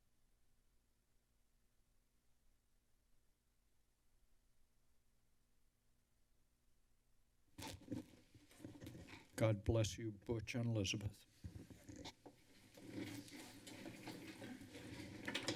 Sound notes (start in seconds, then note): 7.8 microphone rumbles; 11.4 rustling sound